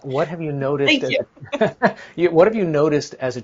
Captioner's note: chuckles